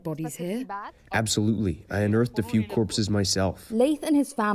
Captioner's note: through translator